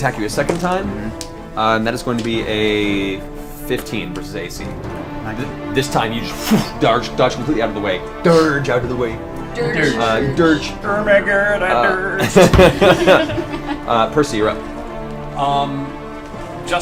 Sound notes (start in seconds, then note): 11.6 all laugh